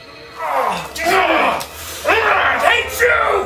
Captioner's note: Sherman growling